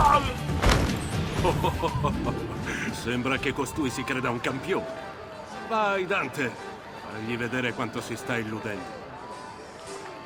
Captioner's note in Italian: laughs